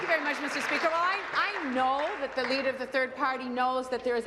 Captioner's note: applause